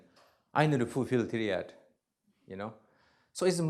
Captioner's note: non-english; non-english